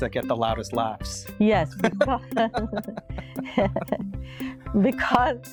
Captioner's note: both laughing